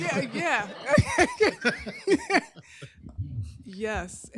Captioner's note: laughter